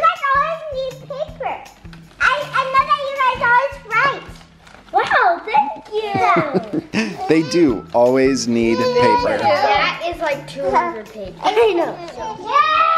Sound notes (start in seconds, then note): 5.9 laughs